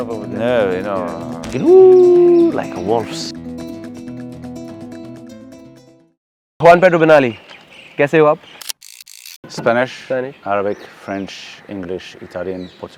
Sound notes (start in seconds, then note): 8.7 rewind effect